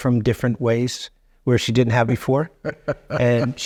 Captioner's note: chuckling